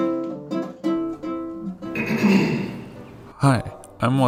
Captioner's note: clears throat